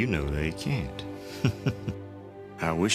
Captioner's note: chuckling